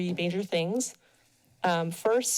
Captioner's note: pause